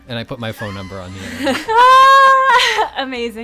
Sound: laughter

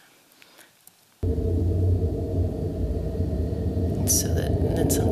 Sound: loud humming

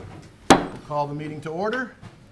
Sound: gavel hammering

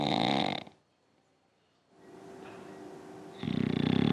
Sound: snoring

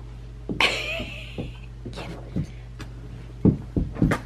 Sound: chuckles

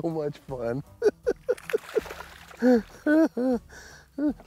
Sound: laughing

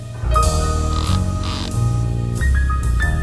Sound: wood creaking

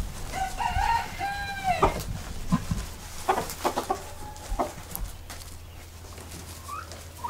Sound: chickens clucking; rooster crows; more clucking

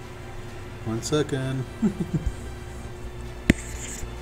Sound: chuckles; faint techno music

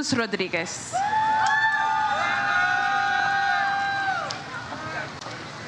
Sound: audience cheers

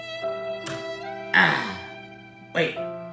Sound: ryan expresses a deep sigh of relief

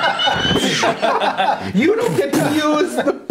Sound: laughing

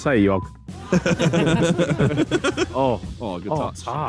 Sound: all laughing

